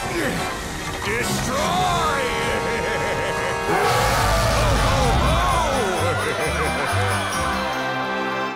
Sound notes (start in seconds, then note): 0.0 grunting; 2.2 laughing; 3.6 roaring; 6.6 customers screaming